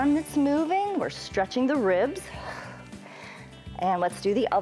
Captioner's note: exhales